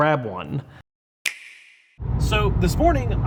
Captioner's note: object snapping